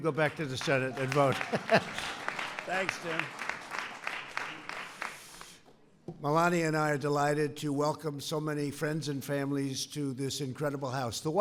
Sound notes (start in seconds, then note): 0.8 laughs; 3.1 applause